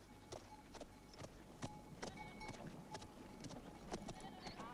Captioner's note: bell clanging